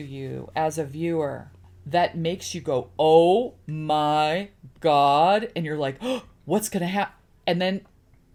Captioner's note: gasps